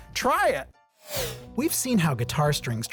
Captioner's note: animation whooshing